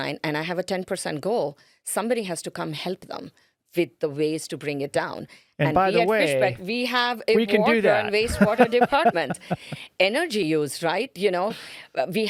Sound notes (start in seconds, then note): 7.6 laughing